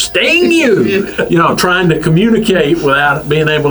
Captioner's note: laughs